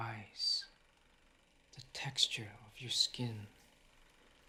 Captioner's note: none